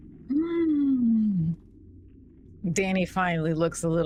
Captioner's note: gasps